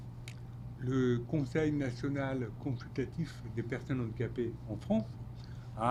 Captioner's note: speaking French